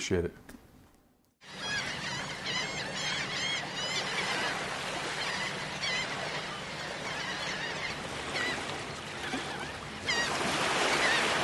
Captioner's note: seagulls Cawing